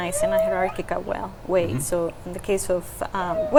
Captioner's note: whale singing